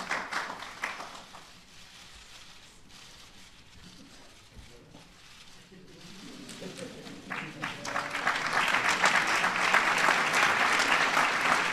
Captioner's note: applause